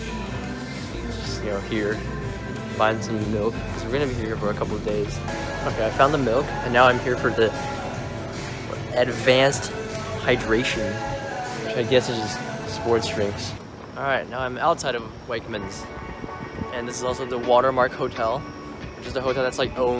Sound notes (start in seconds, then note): none